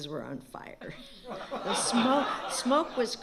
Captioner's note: laughter